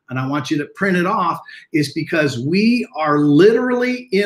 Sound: none

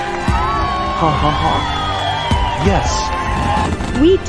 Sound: laughs

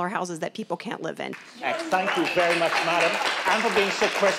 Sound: audience cheering

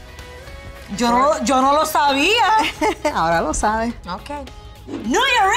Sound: speaking in Spanish

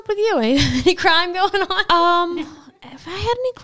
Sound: chuckles

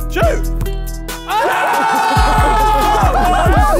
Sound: group In Unison

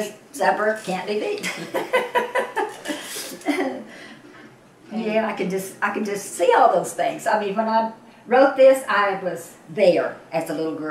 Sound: laughter

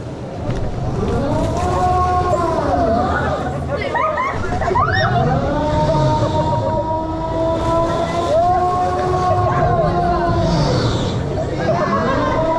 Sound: cheers, laughter

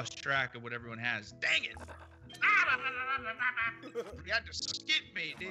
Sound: laugh

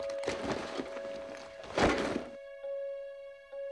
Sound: clanking

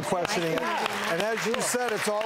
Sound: audience clapping

